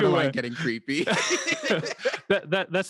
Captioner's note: both laugh